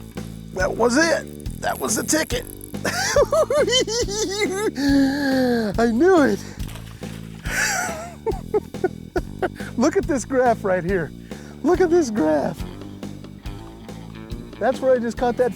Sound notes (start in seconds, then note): 2.8 giggles; 7.4 laughs